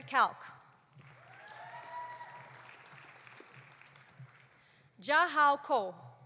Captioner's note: audience applauding; audience cheering